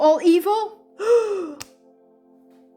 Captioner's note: gasp!